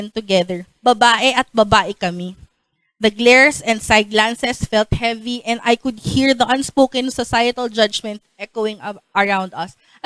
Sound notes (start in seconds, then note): none